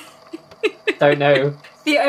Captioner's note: laughs